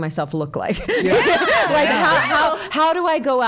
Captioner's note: all laughing